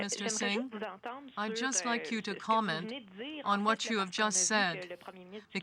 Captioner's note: speaking french